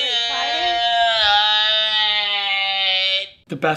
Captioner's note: exclaiming